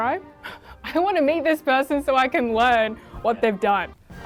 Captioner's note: chuckles